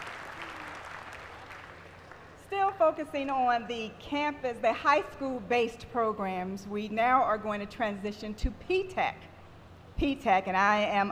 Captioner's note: applause